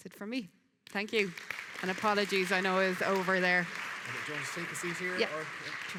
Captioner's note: audience applauding